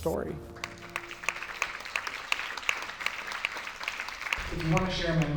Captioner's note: applause